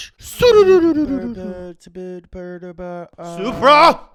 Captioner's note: mummers